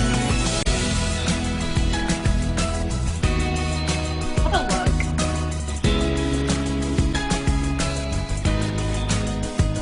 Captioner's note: laughs